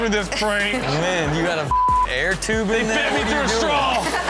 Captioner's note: beep